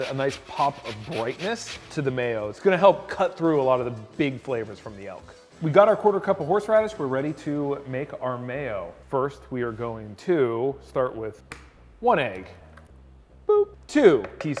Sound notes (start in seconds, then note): 11.7 cracks shell; 14.1 taps utensil